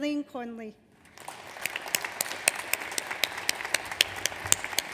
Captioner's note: audience applauds